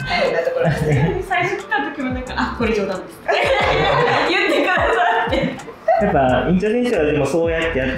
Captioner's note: laughter